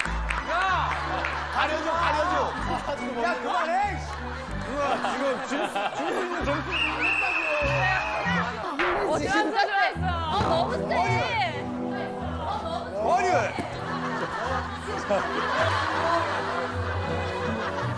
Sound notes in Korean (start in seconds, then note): 6.7 호루라기 소리